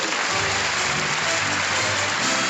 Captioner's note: applause